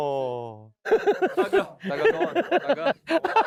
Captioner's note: hahaha; hahahaha